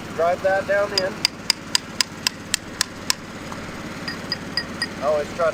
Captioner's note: hammer tapping